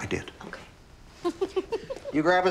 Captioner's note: Cassie giggles